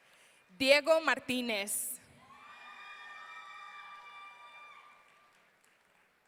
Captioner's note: audience cheering